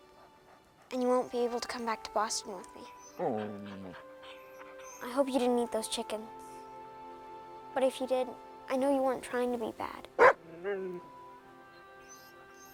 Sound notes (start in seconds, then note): 3.0 Buck whimpers; 10.2 Buck barks